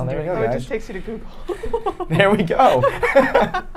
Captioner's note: laughing